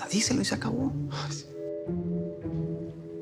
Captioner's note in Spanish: Armando exhala